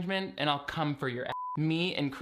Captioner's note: beep